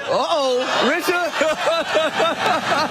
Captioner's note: laugh